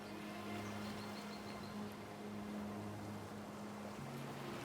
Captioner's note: waves crashing on the shore